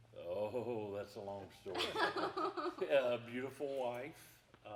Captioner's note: group laughing